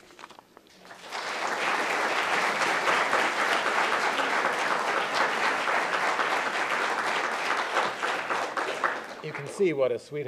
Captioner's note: applause